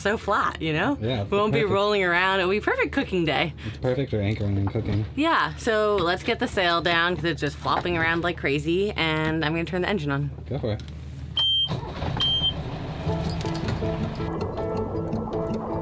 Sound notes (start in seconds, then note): 12.1 boat beeping; 13.0 gentle music